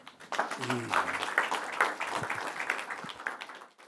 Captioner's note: audience applauding